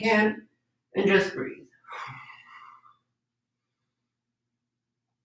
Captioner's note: breathes deeply